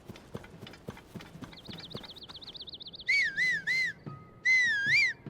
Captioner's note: birds chirping; Link's footsteps